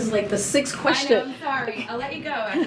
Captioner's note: laughs